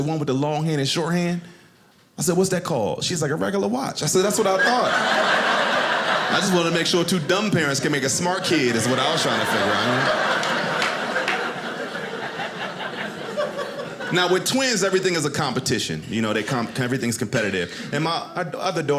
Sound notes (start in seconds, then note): 10.5 audience laughing